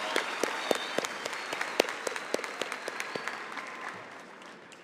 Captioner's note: cheering and applause